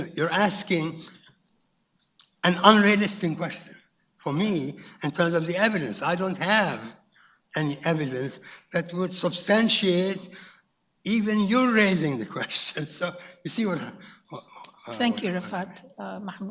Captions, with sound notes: You're asking an unrealistic question, for me, in terms of the evidence. I don't have any evidence that would substantiate even you raising the question, (laughs) you see what I'm-- - Thank you, Rifa'at.